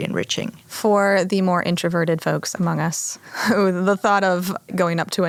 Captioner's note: chuckles